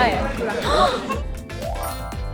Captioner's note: gasp